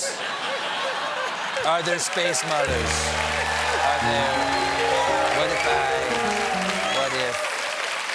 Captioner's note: laughter